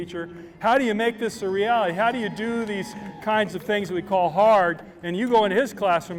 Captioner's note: applause